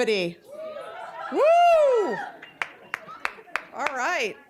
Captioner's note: audience cheering